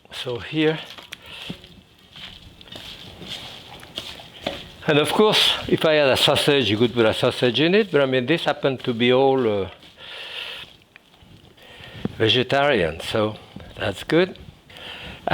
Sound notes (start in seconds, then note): 1.5 ingredients mixing